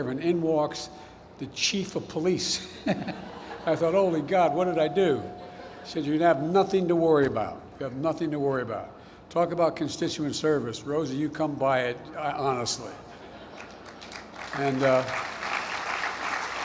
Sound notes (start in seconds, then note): 2.8 laughs; 5.4 laughter; 13.5 applause